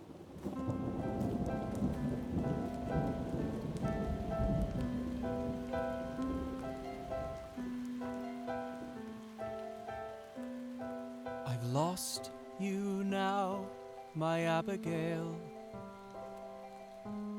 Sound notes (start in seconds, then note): 6.2 rain begins to fall